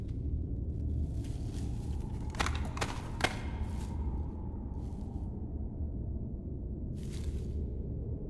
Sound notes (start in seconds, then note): 2.3 feet tapping